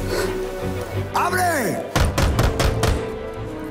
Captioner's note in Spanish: Golpes en la puerta